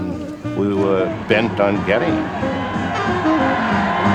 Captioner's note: cheering